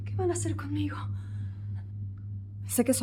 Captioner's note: heavy breathing